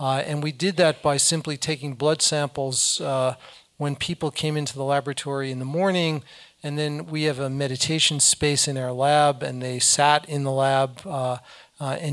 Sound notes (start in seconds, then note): none